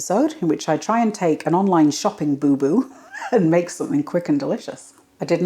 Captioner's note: laugh